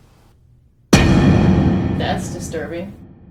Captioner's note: dramatic bang